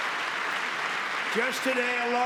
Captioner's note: applause